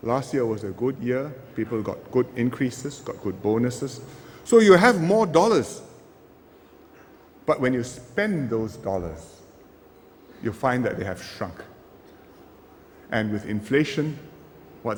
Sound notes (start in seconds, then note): none